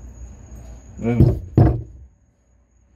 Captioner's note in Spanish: golpes